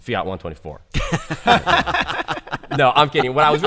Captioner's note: laughter